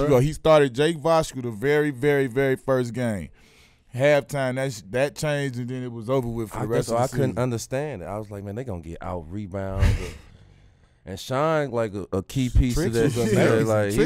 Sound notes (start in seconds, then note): 10.0 laughing